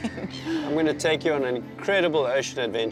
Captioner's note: laughs